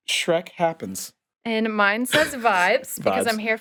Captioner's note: chuckling